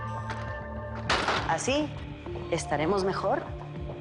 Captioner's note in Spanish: Ruido al cerrar